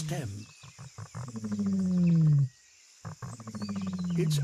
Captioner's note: deep, resonant rumbling